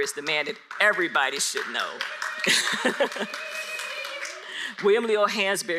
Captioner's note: audience applauds